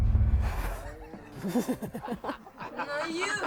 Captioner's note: Rob laughing; Linda laughing